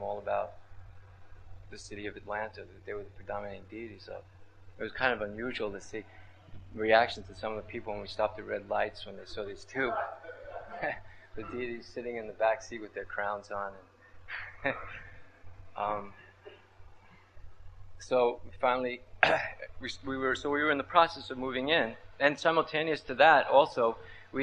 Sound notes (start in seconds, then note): 17.2 laughter